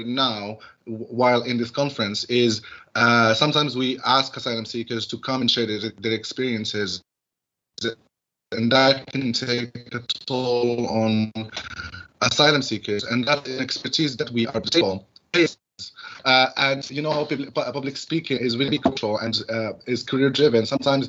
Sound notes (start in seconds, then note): 14.4 glitch